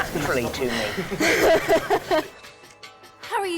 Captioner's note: watson & grint laughing